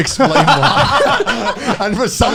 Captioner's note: laughing